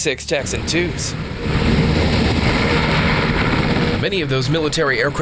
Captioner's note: helicopter engine roaring